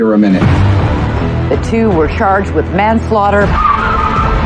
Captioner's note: tires s screechihing